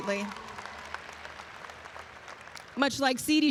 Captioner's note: audience applauds and cheers